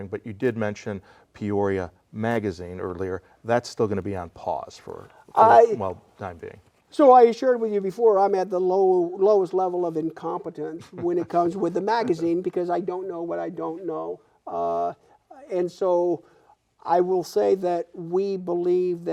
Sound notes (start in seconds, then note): 10.7 laughing